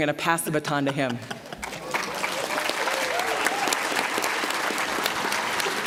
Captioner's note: applause, cheering